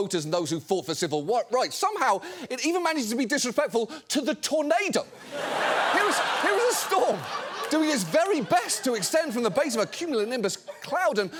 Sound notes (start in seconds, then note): 5.1 studio audience laughing